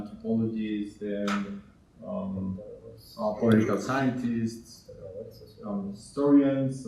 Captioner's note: speaking in Spanish